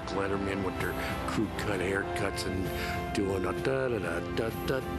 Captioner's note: hums National Anthem